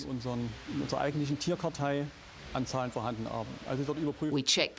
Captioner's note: speaking foreign language